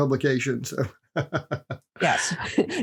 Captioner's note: laughs